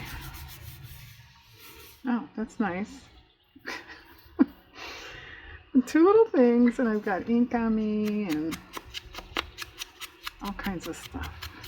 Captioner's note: laughs